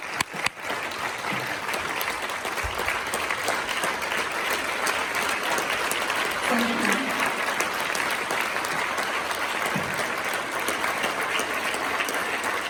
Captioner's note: claps